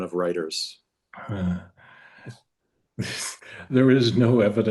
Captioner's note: chuckles